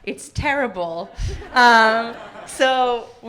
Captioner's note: audience laughing